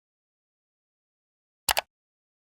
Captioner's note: mouse Clicking